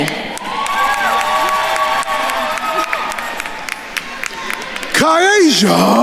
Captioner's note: attendees cheering and applauding